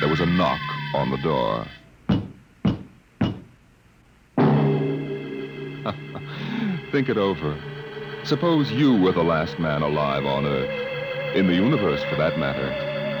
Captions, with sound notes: There was a knock on the door. [knocking] [chuckles] Think it over. Suppose you were the last man alive on Earth. In the universe, for that matter.